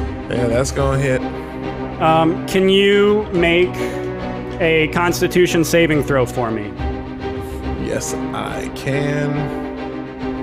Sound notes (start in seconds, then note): none